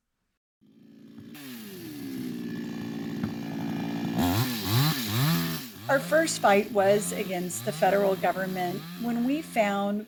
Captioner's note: chainsaw Sounds